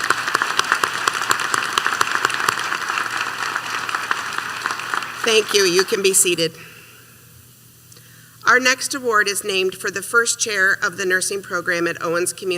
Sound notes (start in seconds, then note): 2.4 applause